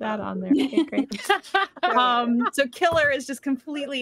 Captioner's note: laughs